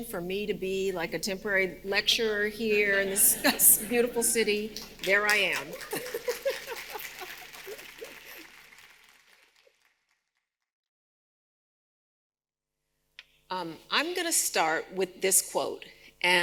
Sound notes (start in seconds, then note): 5.4 audience applauding